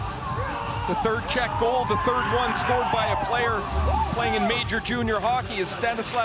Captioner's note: horn